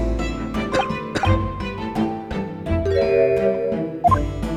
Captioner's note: cough